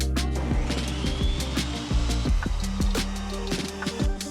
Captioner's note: tools whirring